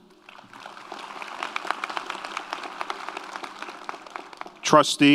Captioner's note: audience applauds